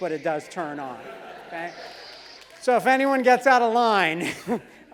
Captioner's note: laugh; laugh